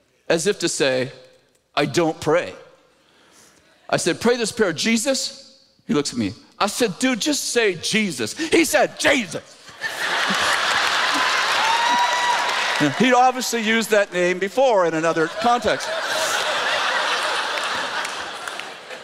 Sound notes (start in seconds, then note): 9.0 in an angry tone; 9.6 laughter; 15.1 laughter